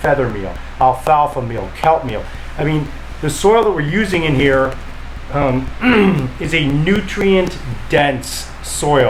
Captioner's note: cleared throat